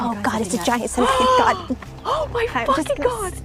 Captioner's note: gasps